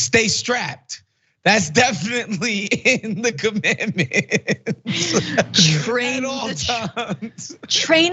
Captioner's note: laugh